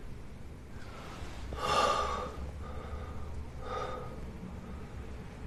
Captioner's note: exhales deeply